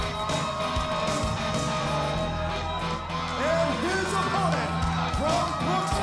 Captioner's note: crowd cheering